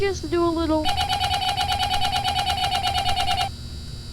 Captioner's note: flipping switches